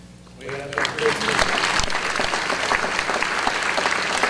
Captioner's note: audience applause